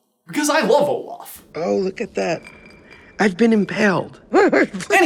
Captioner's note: chuckles